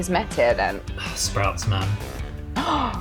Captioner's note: gasps; sigh